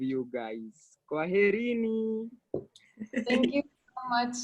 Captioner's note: in foreign language